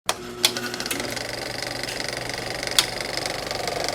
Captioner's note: projector whirring